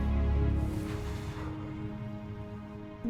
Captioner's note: exhales